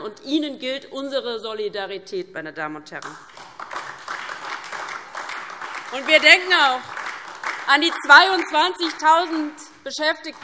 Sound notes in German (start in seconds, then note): 3.0 Beifall DIE LINKE und SPD